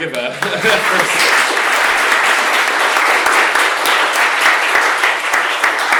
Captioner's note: applause